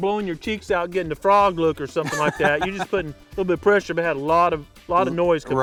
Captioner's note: laughter